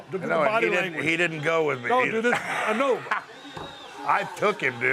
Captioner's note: laugh